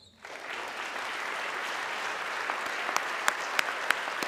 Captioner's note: audience clapping